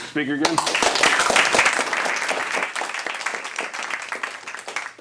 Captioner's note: applause